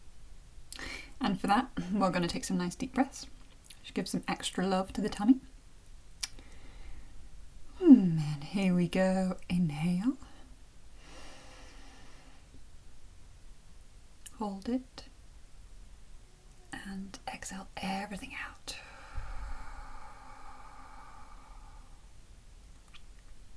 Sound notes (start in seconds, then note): 7.1 sigh; 12.0 breathes in; 18.8 breathes out